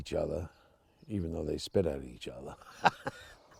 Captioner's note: laughs